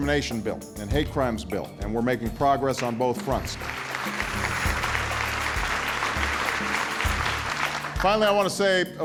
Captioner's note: cheers